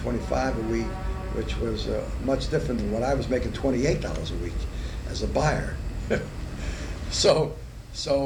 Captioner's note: laughs